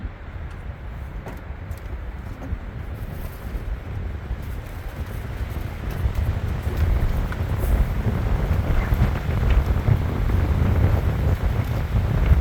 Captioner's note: wind howling